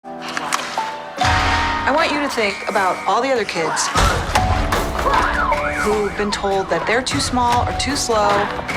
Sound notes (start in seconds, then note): 0.3 gentle music; 1.1 siren wailing; 5.1 siren wailing